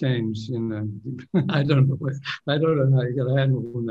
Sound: laughs

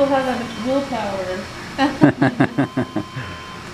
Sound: laughing

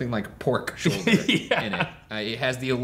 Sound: laughing

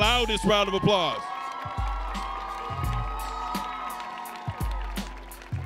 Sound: audience cheering

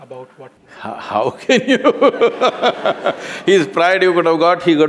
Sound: laughter

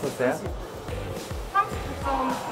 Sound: gasping

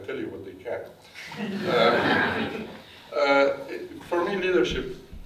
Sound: audience laughs

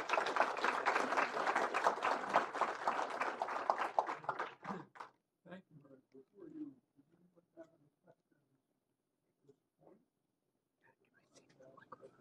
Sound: applause

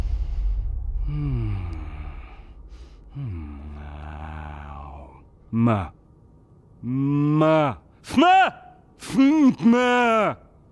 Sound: moans, babbling

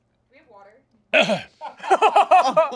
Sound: coughing; all laughing

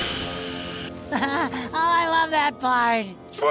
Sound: chuckles

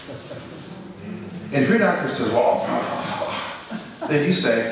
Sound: groans

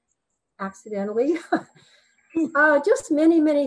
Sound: chuckles

